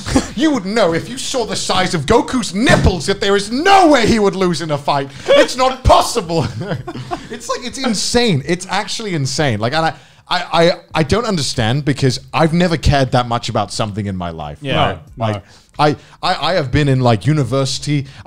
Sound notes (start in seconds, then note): 6.2 laughs